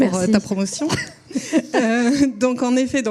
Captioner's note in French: rires